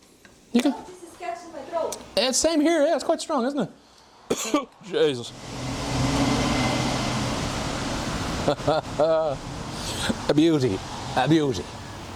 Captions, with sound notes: (speaking foreign language) Yeah, same here, yeah, it's quite strong, isn't it? (coughing) Jesus. (sizzling) (laughing) Abutee, abutee.